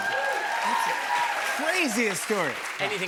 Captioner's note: cheers and applause